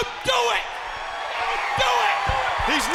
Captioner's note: audience cheers